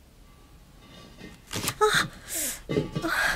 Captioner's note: hisses softly